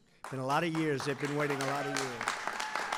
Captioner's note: applause